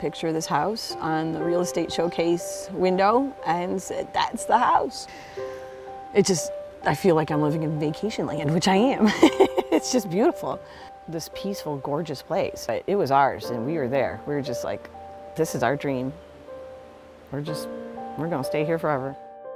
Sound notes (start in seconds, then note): 9.0 laughing